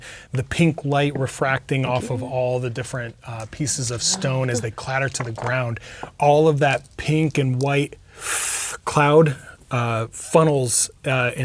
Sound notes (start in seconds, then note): 5.8 inhales